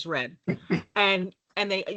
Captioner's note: laughing